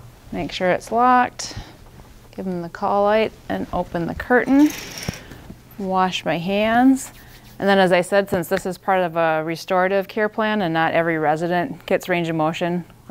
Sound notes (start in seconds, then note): 0.0 bed buzzing; 4.7 curtain whooshing